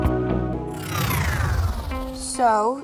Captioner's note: electronic swoosh